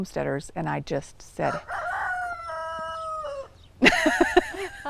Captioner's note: rooster crowing; laughing